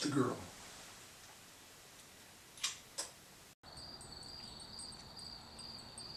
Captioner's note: crickets